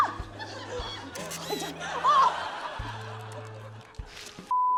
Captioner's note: camera flash clicks